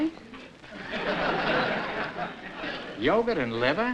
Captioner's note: laughter